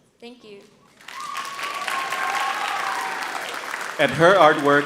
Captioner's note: audience cheering and applauding